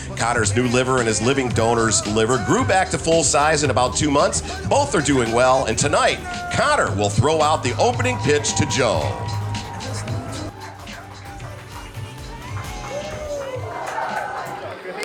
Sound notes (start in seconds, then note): 9.3 people chattering and clamoring